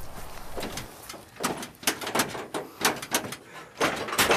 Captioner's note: metal clanging